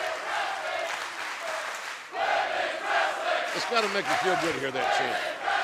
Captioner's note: fans chanting